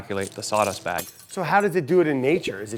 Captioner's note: glass breaks